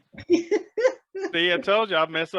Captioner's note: laughs